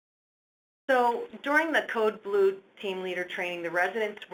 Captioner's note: voiceover